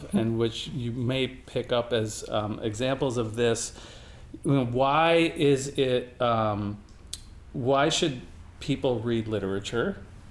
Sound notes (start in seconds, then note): none